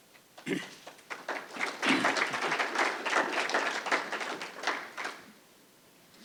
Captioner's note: applause